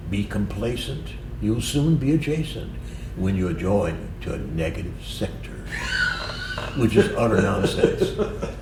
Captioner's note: laughter